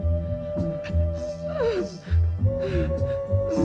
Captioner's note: whimpering